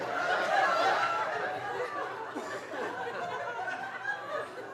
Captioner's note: audience laughing